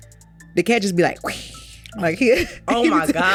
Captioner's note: hisses